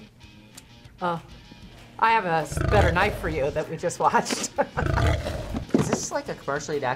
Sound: laughs

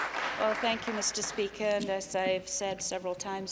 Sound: applause

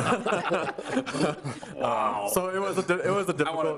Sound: members laughing

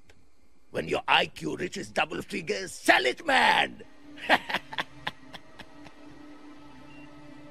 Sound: laughs

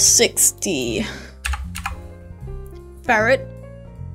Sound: type type

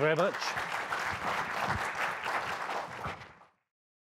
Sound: crowd applause

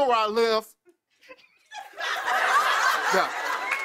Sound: laughter

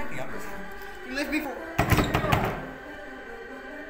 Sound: slamming sound

